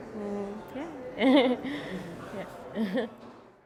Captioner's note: laughs